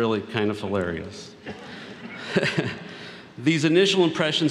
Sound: laughter

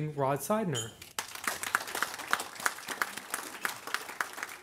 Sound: audience applauds

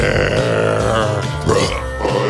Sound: burp

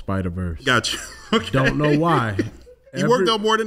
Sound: laughs

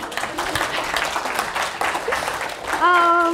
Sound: applause

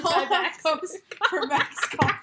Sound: laughter

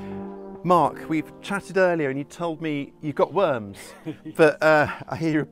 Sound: laughs

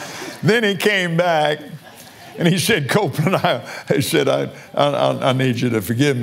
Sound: laughs

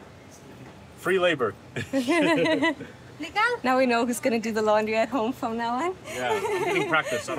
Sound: laughing

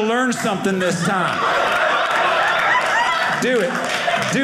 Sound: audience laughing

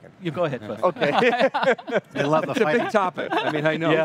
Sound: laughing

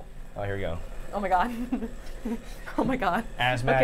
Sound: Safiya nervously chuckling

